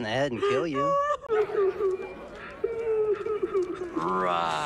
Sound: more sobbing

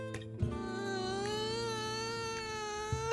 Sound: whining

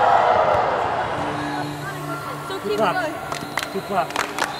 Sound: cheering

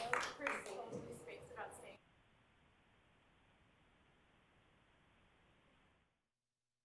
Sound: applause

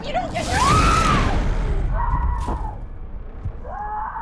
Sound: Rosemary screams

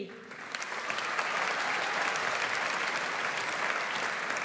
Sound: audience applauds

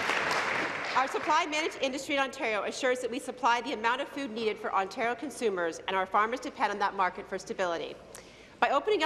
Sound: applause

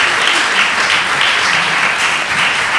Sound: applause

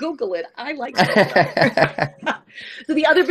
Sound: laughs

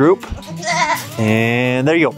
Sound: goat bleats

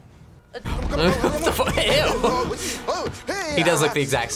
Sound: laughs

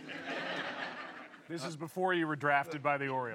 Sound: laughter

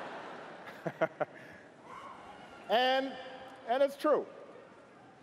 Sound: cheers & applause

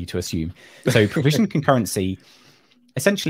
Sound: laughs

